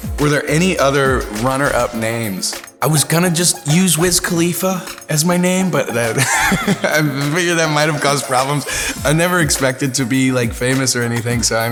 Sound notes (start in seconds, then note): 4.8 laughs